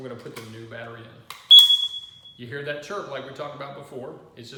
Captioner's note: beep